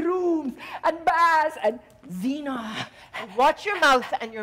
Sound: Sharik softly panting

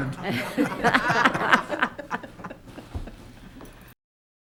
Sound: members giggling

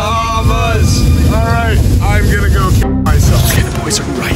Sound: chanting

